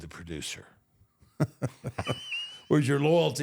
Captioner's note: both laugh